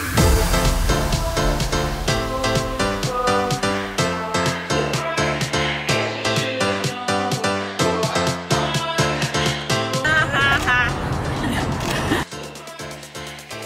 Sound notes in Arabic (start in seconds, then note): 0.4 موسيقى إيقاعية; 11.1 يضحك الجميع